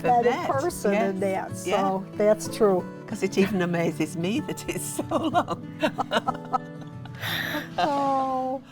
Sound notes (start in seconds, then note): 5.0 both laughing